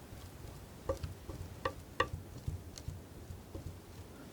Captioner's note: tapping